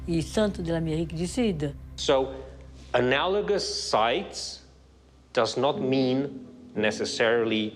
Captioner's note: in English